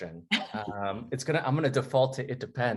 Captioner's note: laughs